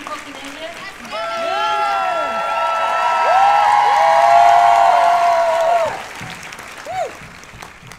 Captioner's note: cheers and applause